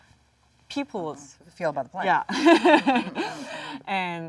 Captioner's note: laughs